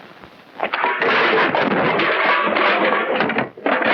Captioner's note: crashing